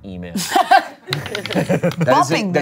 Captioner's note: everyone laughs